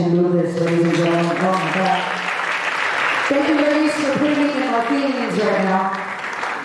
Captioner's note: applause